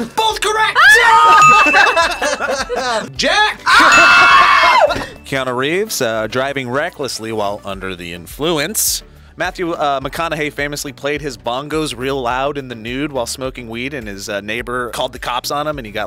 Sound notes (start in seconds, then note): 1.5 both laugh; 3.6 screams